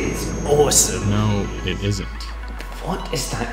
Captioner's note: ghostly voice